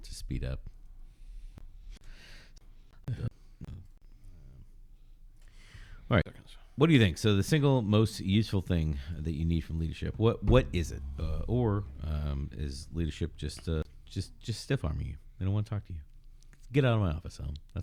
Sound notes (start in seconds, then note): 9.6 uh